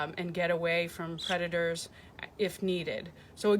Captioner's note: chirp